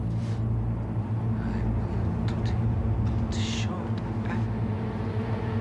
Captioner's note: whispers